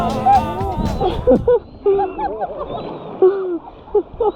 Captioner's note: laughing